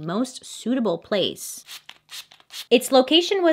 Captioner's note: sprays